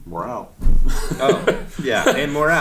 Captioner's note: laughing